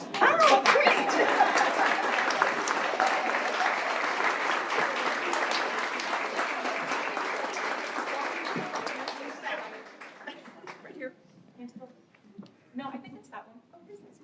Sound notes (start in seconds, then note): 0.0 applause